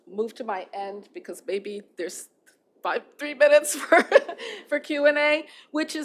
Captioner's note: laughter